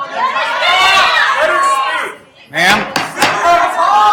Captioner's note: attendees clamoring